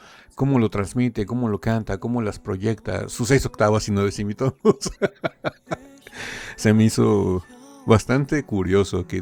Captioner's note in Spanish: risas